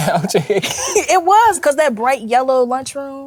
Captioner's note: laughs